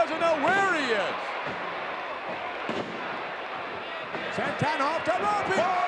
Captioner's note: wrestlers thudding